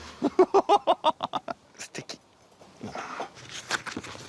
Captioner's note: laughs